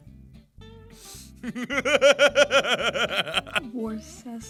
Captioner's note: laughter